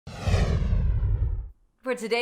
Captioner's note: whooshing sound